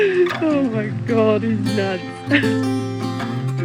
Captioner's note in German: Energische Musik; lacht; Energische Musik